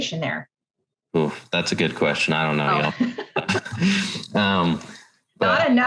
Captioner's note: haha